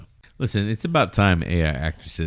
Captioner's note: uh